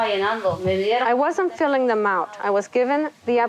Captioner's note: speaking Spanish